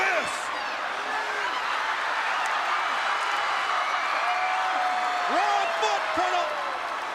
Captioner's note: crowd chatter